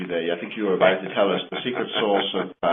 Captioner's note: laughs